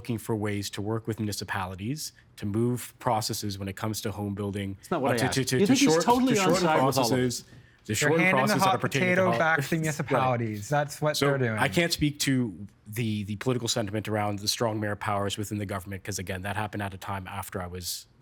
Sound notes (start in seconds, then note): 10.1 multiple voices